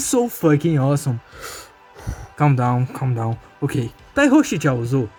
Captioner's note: breathes